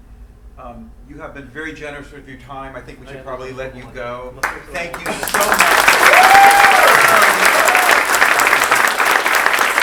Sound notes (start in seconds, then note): 3.7 speaking in foreign language; 4.4 clapping; 4.8 crowd cheering